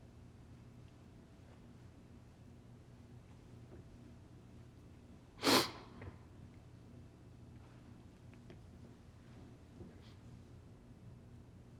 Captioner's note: sniffles